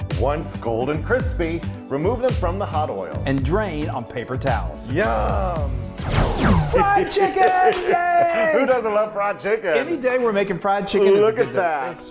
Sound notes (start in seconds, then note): 5.9 air swooshing